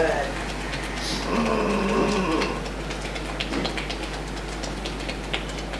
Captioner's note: tapping; groaning